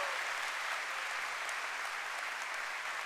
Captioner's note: cheering and applause